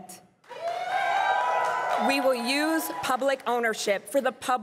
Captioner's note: crowd cheering and applauding